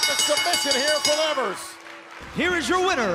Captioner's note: bell